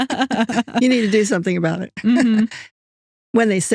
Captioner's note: both Laughing